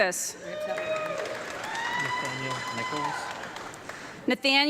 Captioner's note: audience clapping and cheering